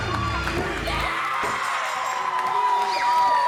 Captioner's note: match bell rings; shouting